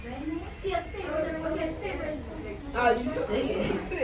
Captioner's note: chatter